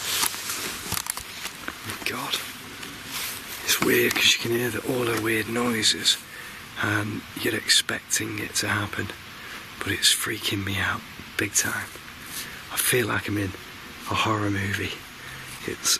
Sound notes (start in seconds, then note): none